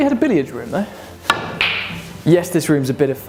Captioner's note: balls cracking